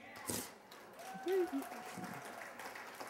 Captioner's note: applause